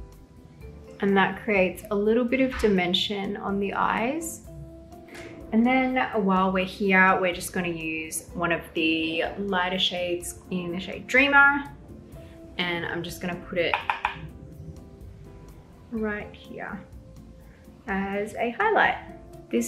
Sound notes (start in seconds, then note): 0.1 soft music; 4.4 soft music; 13.6 brush tapping